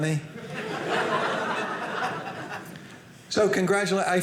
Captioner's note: audience laughing